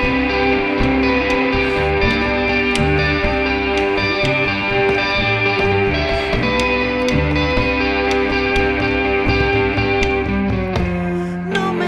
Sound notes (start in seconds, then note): 1.1 humming continues; 11.6 continues singing in Spanish